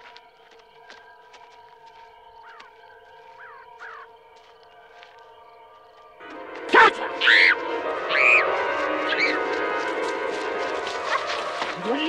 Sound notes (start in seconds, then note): 3.8 bird squawking; 7.2 Marylee screams; 8.1 suspenseful music